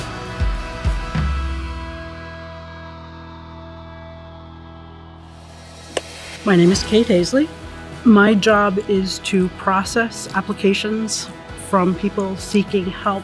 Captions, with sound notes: (clapperboard snaps) My name is Kate Haessly. My job is to process applications from people seeking help